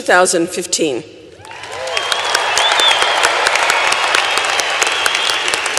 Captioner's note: applause